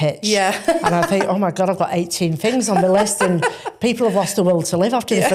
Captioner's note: laughs